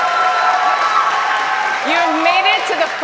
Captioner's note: cheers and applause